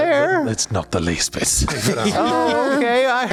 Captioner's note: laughs